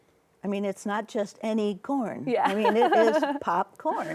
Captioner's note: laughs